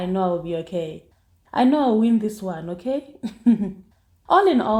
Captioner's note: giggles